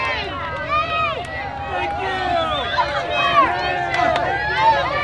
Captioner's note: cheering crowd